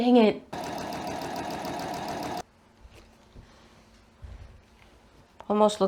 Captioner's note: sewing machine noises and then no ironing noises